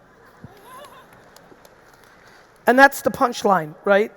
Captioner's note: audience applauding; audience laughing